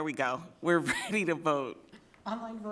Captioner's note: laughing